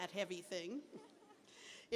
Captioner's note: laughter